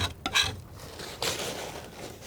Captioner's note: tapping